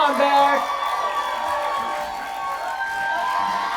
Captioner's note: audience cheering